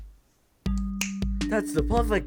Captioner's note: snap